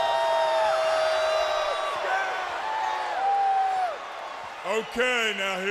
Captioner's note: crowd cheering